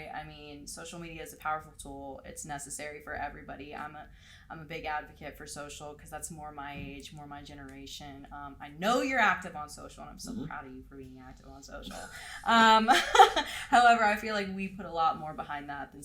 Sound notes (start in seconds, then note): 12.9 laughs